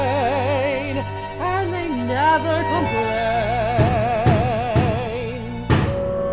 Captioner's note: pounding on door